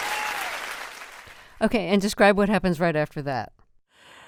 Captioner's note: applause